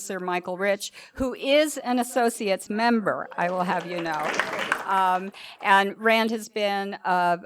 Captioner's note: applause